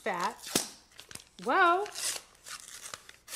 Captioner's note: light popping